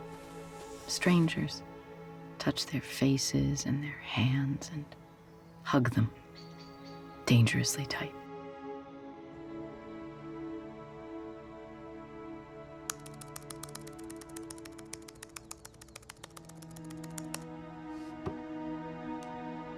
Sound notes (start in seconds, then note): 9.3 brooding pensive music; 12.8 keyboard clicking